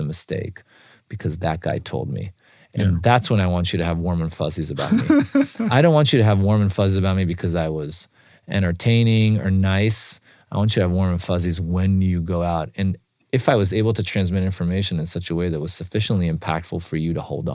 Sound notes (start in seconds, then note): 4.8 laugh